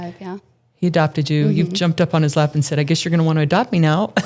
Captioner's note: laughing